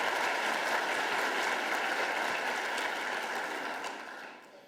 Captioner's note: applause